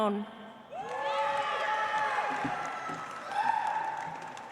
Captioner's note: audience applauds